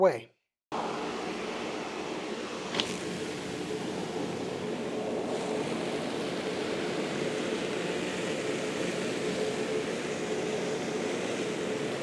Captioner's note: sounds of vacuum